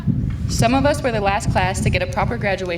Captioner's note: none